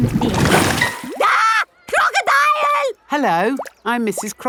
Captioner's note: screams